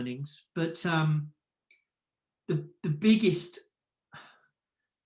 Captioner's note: sighs